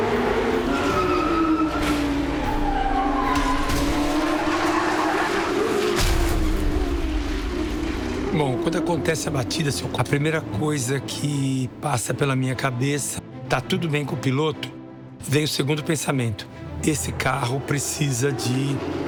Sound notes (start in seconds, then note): 0.0 racecars speeding through turns; 0.6 tires screeching; 3.2 crash